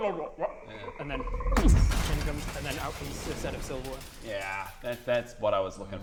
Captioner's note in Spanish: boosh